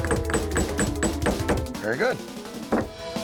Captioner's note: hammering